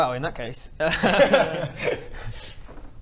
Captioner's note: laughs